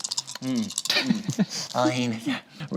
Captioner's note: group chuckles